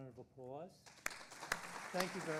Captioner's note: audience applauding